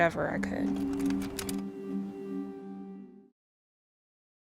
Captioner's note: film projector clicks